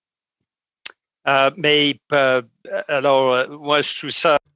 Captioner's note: speaking French